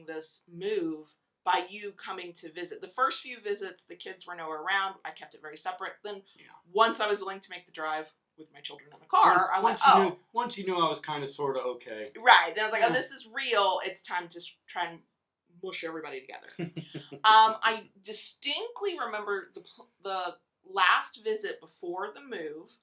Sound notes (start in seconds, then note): 16.6 laughs